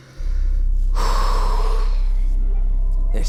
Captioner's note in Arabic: زفير عميق